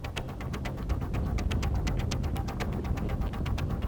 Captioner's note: ground rumbling